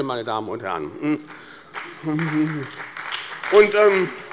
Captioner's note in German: Beifall bei der SPD und der FDP